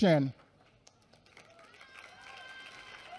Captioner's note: applause